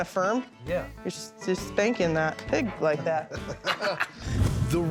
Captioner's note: laughs